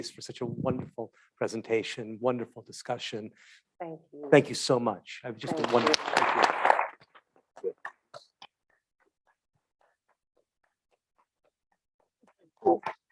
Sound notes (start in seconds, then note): 5.5 audience clapping